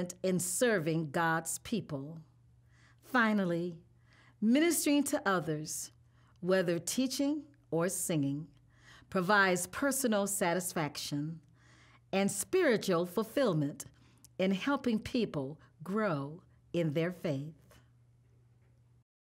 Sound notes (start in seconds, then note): none